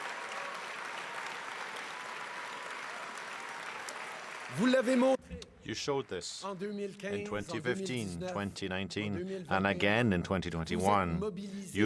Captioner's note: cheering and applause